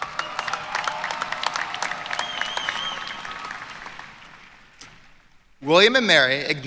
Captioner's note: applause